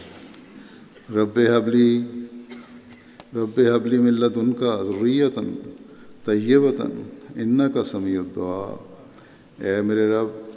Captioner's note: Arabic